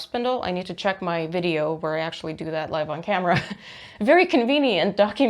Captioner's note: laughs